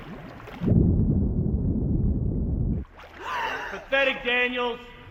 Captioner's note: water bubbling; gasps